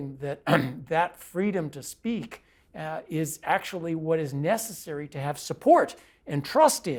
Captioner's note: cough